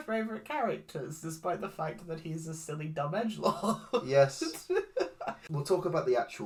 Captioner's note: laughs